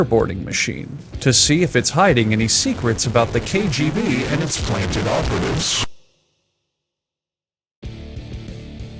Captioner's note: ominous distortion intensifies over time